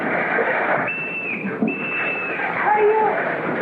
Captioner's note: whistle